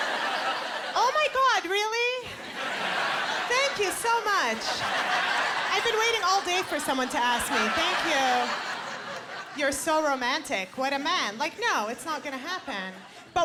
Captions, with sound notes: "Oh my God, really? (Laughter) "Thank you so much. "I've been waiting all day for someone to ask me, thank you. "You're so romantic. What a man." Like, "No, it's not gonna happen."